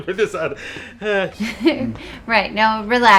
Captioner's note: janitor sighs